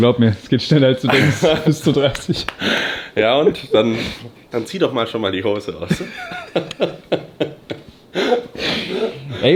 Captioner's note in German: gelächter; schnauben